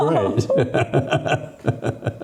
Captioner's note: laughing